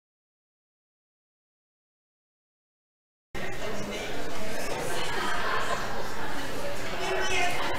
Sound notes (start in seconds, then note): 4.6 audience chuckles